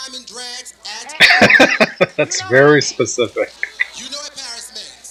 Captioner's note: laughing